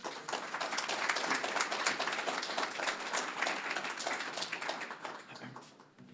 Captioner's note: applause